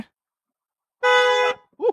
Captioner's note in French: L’alarme de la voiture retentit